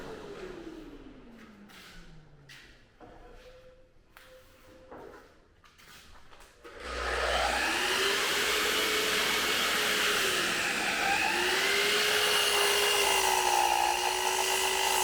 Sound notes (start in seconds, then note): 8.2 tool whirs